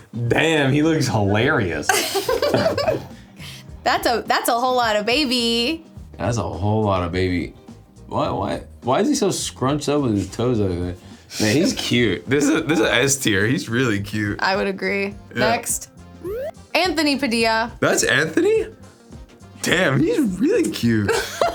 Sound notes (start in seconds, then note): 1.9 giggles; 21.1 laughs